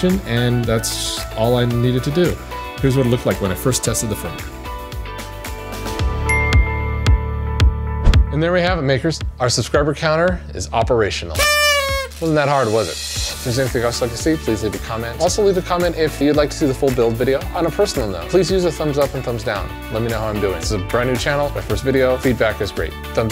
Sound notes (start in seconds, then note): 6.2 ding!; 11.3 celebratory Party Horn